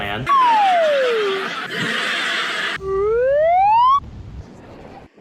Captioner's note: elated Laugh Track